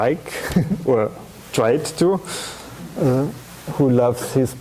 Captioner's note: chuckling